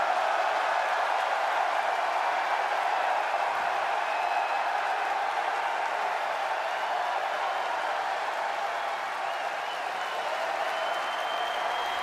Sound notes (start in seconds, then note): 0.0 cheers and applause